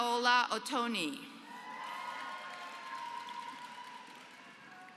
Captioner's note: applause